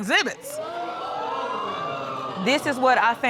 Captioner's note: audience exclaiming